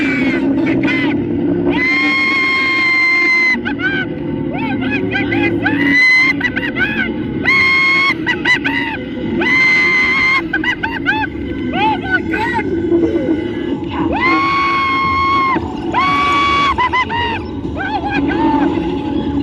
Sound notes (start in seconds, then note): 5.5 screaming continues; 14.0 screaming continues